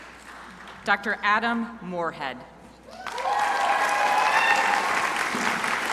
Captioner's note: crowd applauding